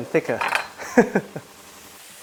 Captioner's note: laughs